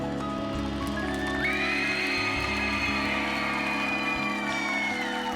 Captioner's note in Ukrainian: оплески